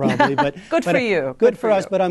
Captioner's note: laughter